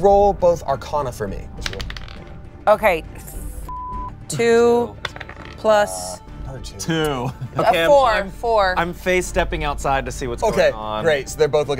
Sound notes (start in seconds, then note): 3.6 beep